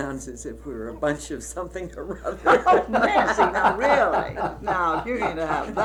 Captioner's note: laughter